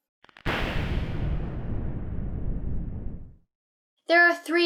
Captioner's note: lightning crackling